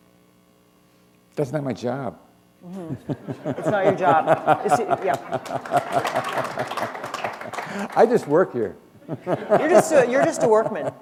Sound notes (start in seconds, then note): 2.8 laughter; 7.2 applause